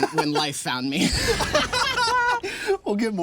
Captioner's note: laughing